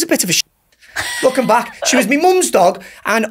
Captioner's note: laughs